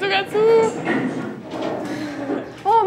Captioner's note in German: Rumpeln